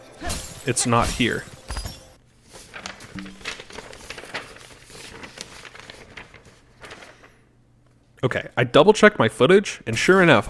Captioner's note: silence and rustling of papers